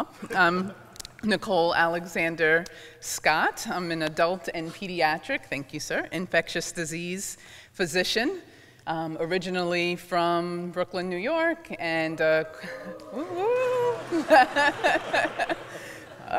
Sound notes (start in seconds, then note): 12.7 laughter; 12.9 scattered whooping